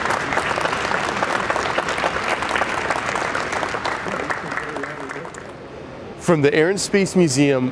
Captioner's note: applause